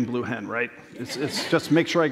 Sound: laughter

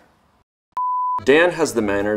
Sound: beep

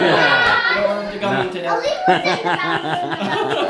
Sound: laughing

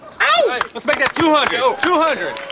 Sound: group clapping

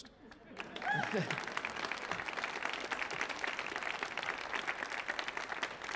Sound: audience laughing and applauding

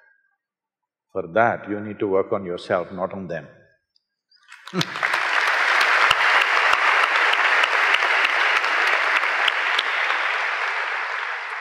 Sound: applause

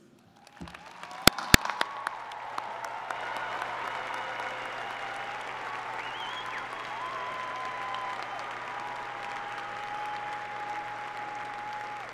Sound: applause

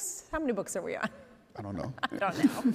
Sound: laughs

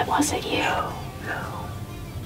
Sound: whispering

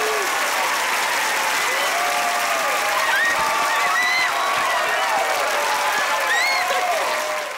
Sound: cheering, applauding

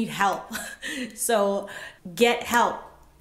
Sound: laughs

